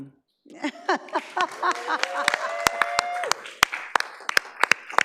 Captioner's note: laughs; audience applauds